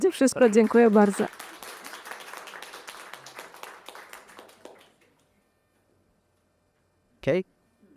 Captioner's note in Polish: Aplauz